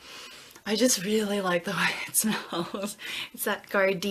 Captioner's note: chuckles